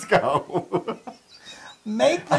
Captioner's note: laugh